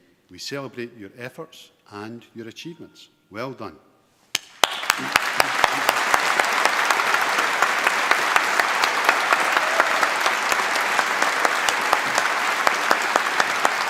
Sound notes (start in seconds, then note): 4.3 applause